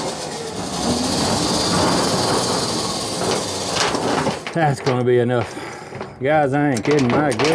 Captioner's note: car Engine Revs